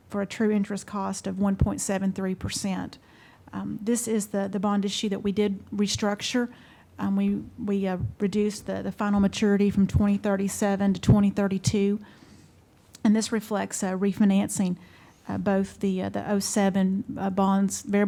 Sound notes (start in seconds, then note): none